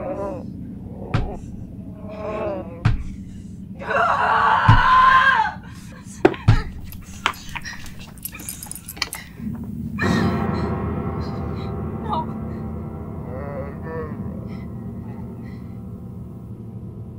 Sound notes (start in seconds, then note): 0.0 moaning and knocking from under the bed; 3.7 screams angrily; 6.8 dog collar jangling; 12.8 monster groaning